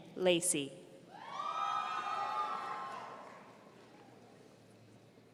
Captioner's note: audience cheering